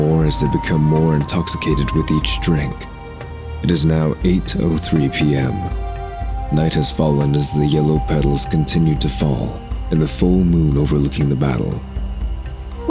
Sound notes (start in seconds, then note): none